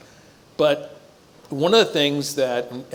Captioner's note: none